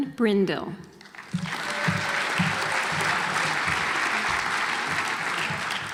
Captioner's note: audience applauds